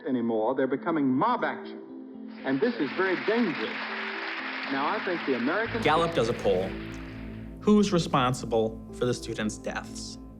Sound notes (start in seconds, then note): 2.4 applause